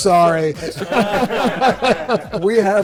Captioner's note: all laugh